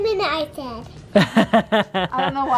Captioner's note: laughs